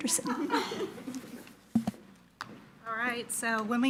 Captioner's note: participants laughing